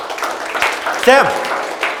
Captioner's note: audience claps